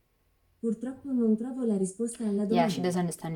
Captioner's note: starts speaking in italian